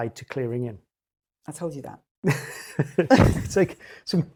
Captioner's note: laughs